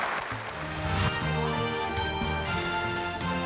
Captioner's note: applause